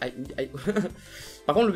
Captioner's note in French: rires